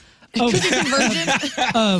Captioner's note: laughing